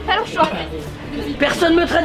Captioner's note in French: Tousse